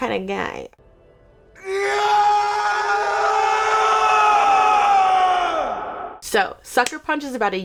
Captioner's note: screaming